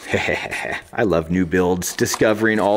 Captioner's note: laughs